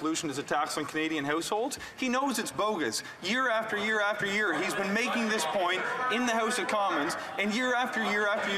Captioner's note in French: voix de l'interprète